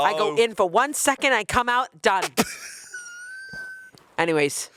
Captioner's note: chuckling; crew member chuckling